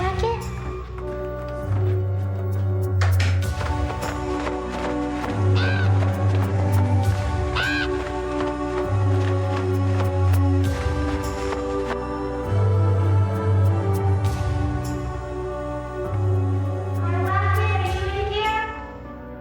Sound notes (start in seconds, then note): 3.1 door rattling; 3.4 raven cawing over flapping wings; 12.2 eerie orchestral music